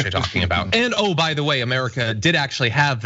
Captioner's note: laugh